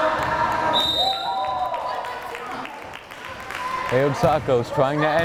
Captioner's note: whistle blares